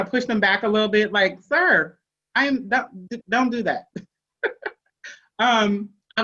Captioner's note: chuckles